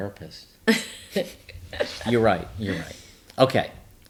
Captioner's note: laughs